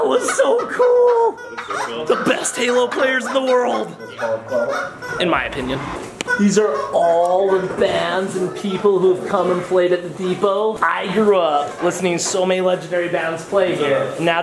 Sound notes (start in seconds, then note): 1.2 toys squeaking; 4.5 players chattering